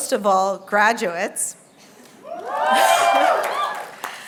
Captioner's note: cheering